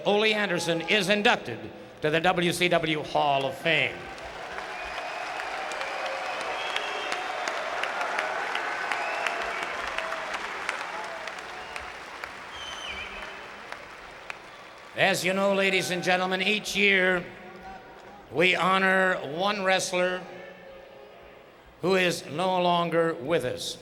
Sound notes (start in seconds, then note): 5.1 applause